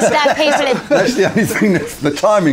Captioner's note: laughing